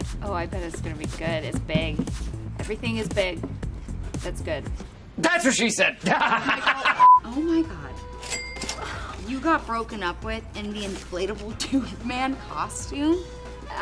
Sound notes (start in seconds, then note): 6.1 laughs; 7.0 beep